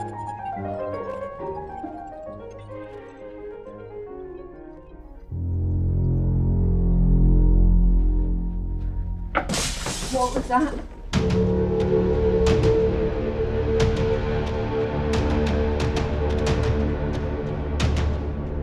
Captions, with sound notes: (ominous music) (metal crashes) - What was that? (chilling music)